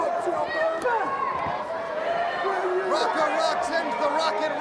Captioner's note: crowd chatter